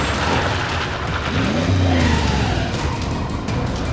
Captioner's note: tires screeching